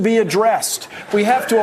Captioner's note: applause